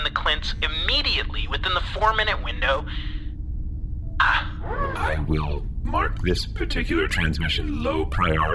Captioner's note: sighs